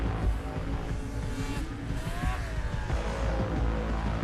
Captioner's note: motors roaring